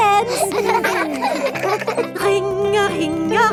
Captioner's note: giggling